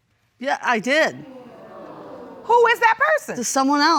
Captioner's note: audience groaning